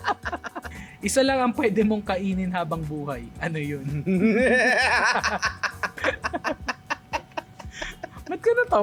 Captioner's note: laughter; laughter